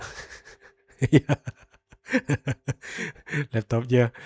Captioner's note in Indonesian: tertawa